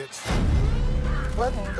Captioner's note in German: sirenen heulen